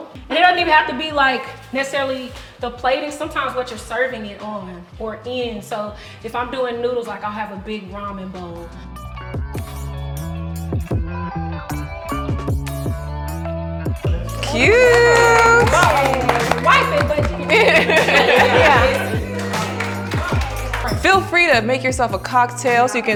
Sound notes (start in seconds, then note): 14.2 applause; 16.2 laughter